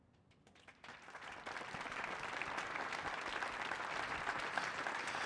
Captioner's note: audience applauding